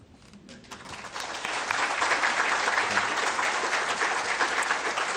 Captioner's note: audience applauds